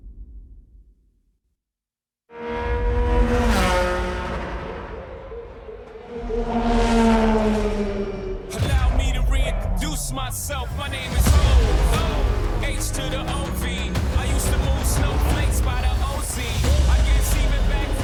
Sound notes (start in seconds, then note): 0.2 dramatic sound; 4.1 car engine whirring